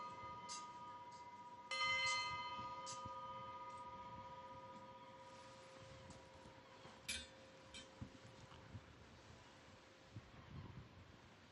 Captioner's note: bell tolling